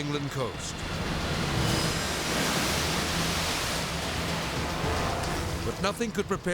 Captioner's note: waves exploding; edgy dramatic music